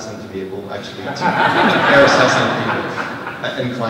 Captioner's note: laughter